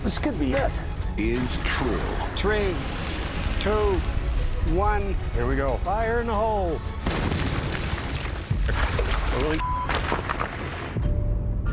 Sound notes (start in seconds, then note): 6.9 explosion booms